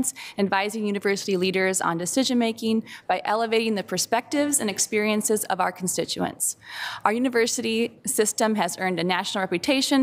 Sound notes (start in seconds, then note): none